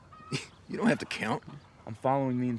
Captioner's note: scoffs